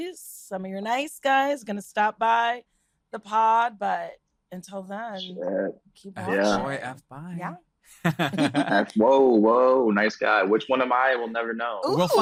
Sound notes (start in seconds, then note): 8.0 laughs